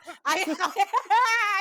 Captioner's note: laughing